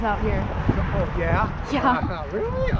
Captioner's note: laughs